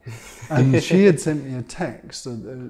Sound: laughs

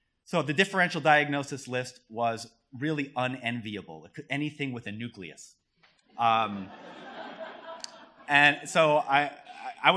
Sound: laughter

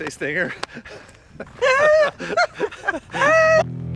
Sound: laughs

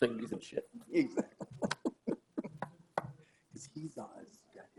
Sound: men laughing

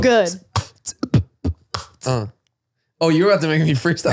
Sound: beat boxing

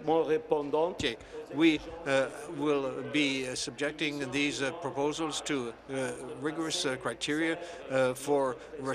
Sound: speaking French

